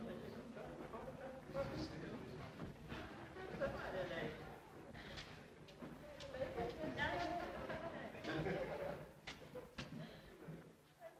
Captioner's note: guests chattering